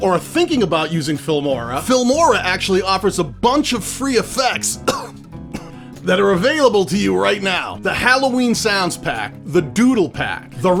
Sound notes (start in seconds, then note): 4.7 coughing